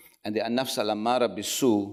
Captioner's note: speaks foreign language